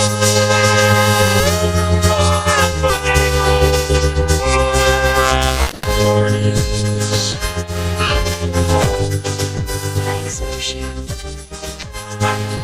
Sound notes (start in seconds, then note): 5.2 yelping